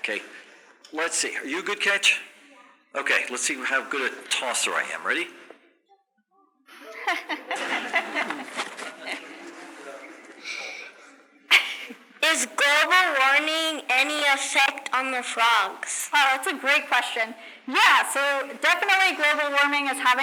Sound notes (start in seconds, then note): 6.8 laughter